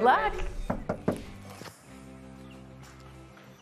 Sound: knocking

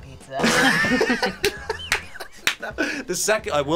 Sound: both laugh

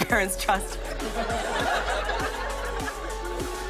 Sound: laughter

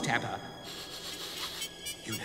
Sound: sniff!

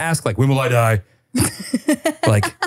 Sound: laughing

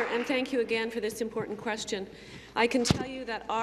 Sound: applause

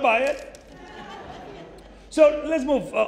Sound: audience chuckling

